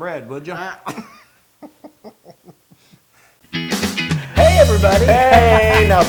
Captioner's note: laugh